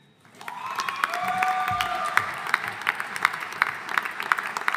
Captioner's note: audience applauding